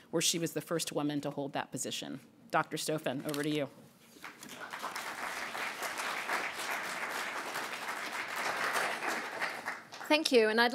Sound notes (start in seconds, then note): 4.2 applause